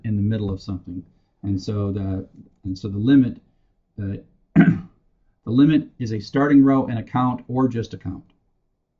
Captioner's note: cough